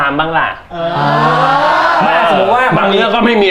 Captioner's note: uhmmmm